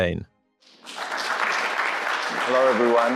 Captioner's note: crowd clapping